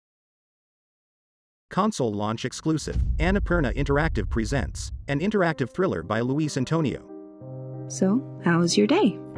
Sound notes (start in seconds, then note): 2.8 dramatic sound; 5.3 slow piano music playing